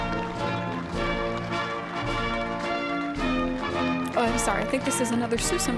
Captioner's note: applause